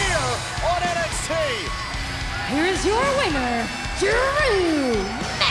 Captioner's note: bell ringing